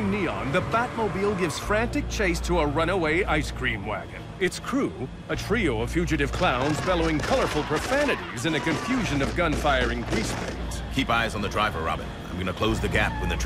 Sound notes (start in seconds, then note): 6.4 gunfire, shouting